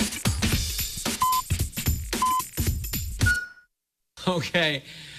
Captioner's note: electronic beeping